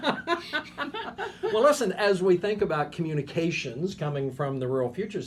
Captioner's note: laughing